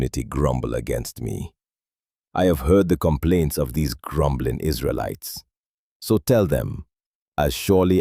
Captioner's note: exasperated